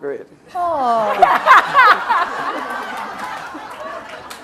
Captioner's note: laughter